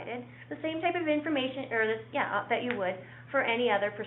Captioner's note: mutters